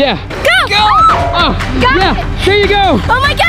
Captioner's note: screaming